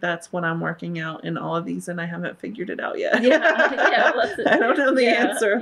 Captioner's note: laughs